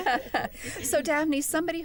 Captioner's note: laughter